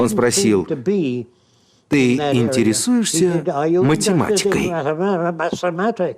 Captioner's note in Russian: немецкий акцент